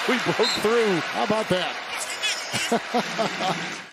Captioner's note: laughs